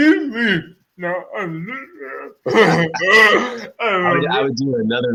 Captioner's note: laughing